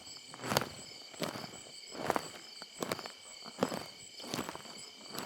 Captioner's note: static crackling